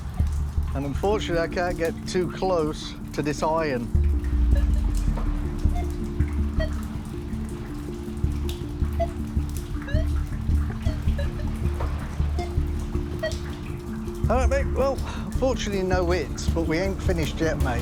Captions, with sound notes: Unfortunately, I can't get too close to this iron. [beeps continue] [more beeps and bleeps] All right, well, unfortunately, no hits, but we ain't finished yet, mate.